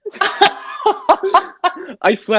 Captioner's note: both Laughing